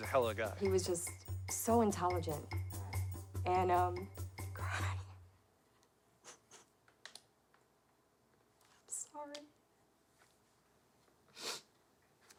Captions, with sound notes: - He was a hell of guy. - He was just... so intelligent... and, um... [whispering] I'm crying. [cries softly] [whispering] I'm sorry. [sniffles]